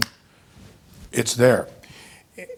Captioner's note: snapping